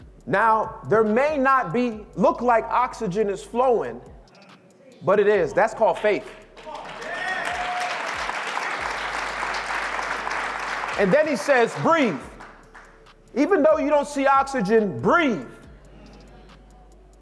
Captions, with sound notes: Now, there may not look like oxygen is flowing, but it is. That's called faith. (audience claps) And then he says, "Breathe." Even though you don't see oxygen, breathe.